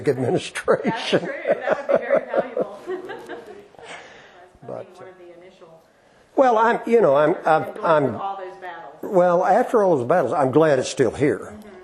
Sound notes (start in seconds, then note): 2.7 laughter